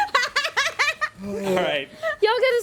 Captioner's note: woman laughs